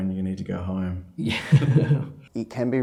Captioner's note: both laugh